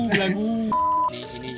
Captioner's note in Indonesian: bip